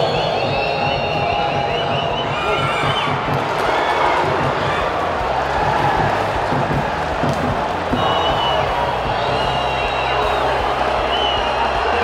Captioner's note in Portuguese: sons da torcida